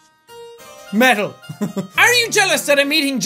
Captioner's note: laughs